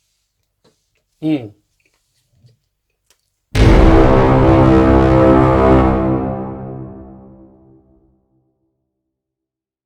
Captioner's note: exit noise